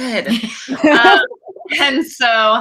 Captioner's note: laughs